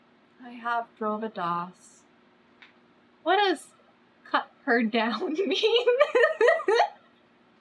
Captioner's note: laughs